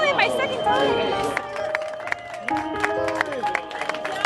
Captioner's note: applause